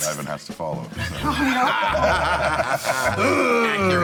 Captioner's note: laughing